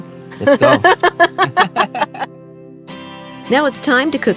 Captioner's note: both laughing